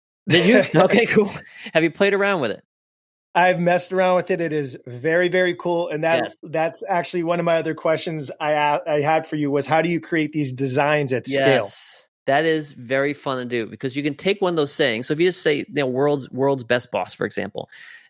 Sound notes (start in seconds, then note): 0.3 both laughing